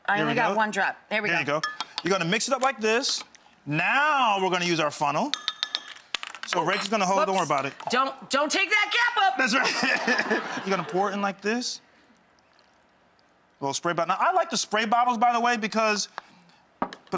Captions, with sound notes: I only got one drop, there we go. There you go. You're gonna mix it up like this. Now, we're gonna use our funnel. So, Rachel's gonna hold-- Whoops. Don't worry about it. Don't take that cap up. That's right (laughs). (crowd laughing) You're gonna pour it in like this. I like the spray bottles by the way, because...